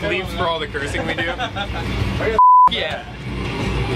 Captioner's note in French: bip